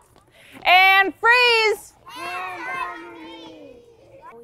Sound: class in unison

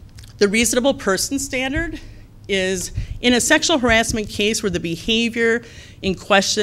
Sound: none

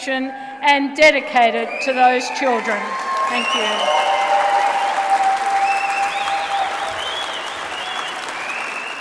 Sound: applause

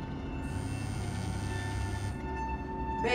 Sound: phone vibrates

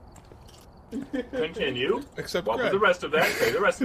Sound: chuckle

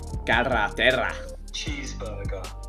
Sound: foreign language

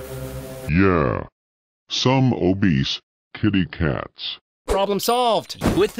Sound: computer generated voice

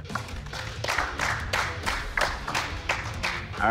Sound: clapping

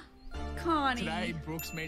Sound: gasps

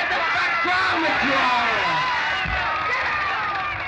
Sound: cheers and applause

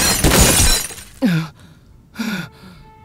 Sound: moaning

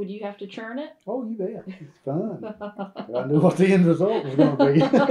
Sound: laughter

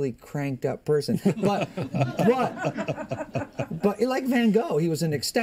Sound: laughter

